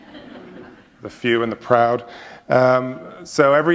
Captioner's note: chuckle